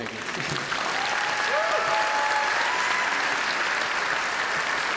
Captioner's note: applause and cheering